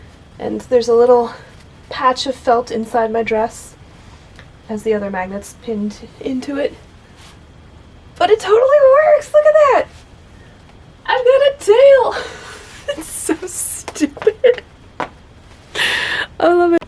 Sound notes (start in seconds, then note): 12.0 laughs